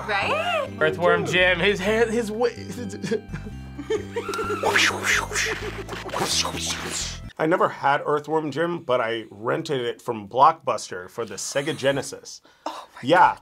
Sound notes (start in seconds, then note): 3.7 laughs; 5.8 mimics whip